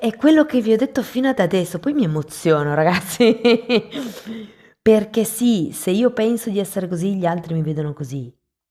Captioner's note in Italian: risate